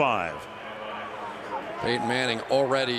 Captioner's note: pa announcement